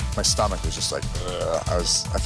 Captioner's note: grgroaoansns